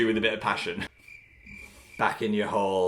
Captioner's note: crickets chirping